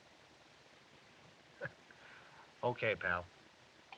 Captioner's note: chuckles